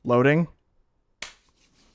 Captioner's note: clap